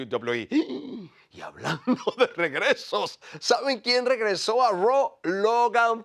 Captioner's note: laugh